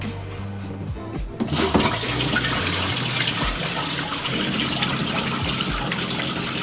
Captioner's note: flushes the toilet